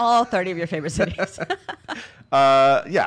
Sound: laugh

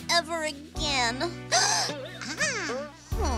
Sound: gasps; groans dejectedly

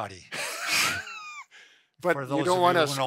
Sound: both laughing

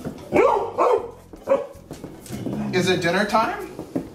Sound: barking

